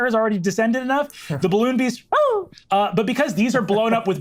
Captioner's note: squeals